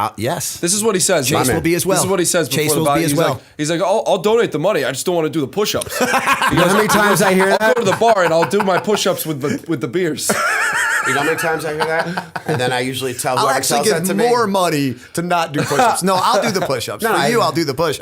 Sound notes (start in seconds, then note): 5.8 laughter; 16.3 chuckle